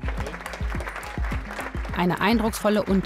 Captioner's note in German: Applaus